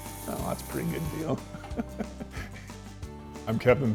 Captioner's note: laughs